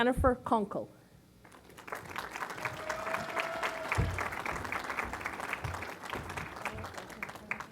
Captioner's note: applause